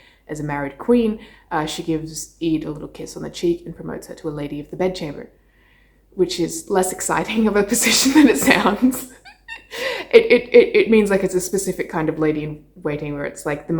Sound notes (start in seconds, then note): 8.8 laughing